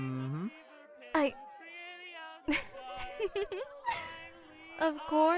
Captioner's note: flirtatious laugh